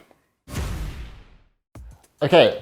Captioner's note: logo bangs